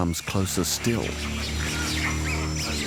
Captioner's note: screeching